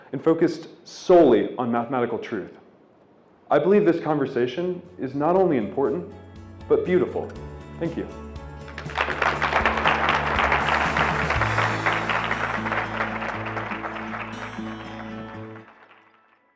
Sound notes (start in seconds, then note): 8.5 audience clapping; 8.6 upbeat music